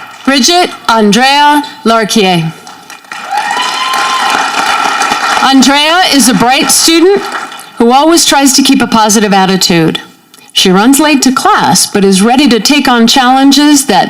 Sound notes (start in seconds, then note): 2.6 audience clapping